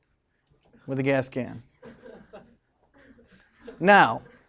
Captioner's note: students chuckling